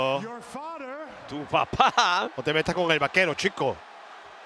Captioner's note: laugh